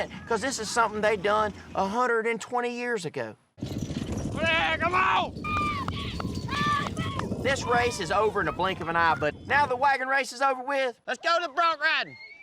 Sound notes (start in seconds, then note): 6.5 crowd cheers